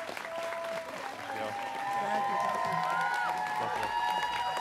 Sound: students cheering

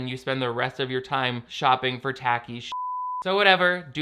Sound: beep

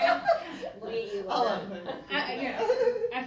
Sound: all Laughing

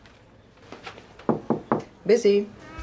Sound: Emily knocking

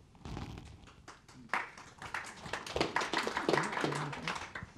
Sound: applause

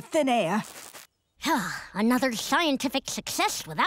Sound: sighing

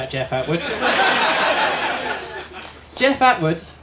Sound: laughter

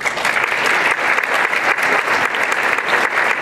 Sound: applause

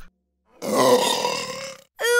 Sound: burping

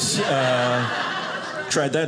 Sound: audience laughing

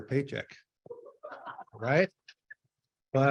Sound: laughter

